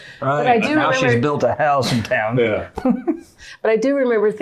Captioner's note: laughing